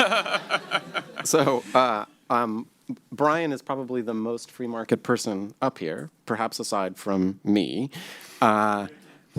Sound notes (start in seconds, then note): 0.0 laughter